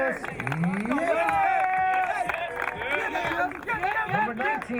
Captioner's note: crowd cheering